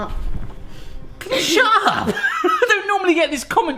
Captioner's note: laughs